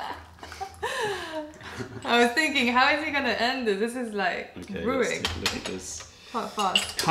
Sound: laughter

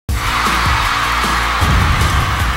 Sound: crowd cheering

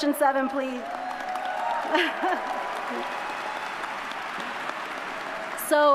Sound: audience cheers; chuckles

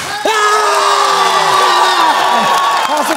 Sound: applause

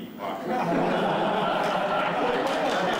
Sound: laughter

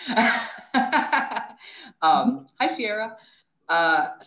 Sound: laugh

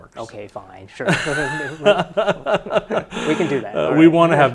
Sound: laughs loudly

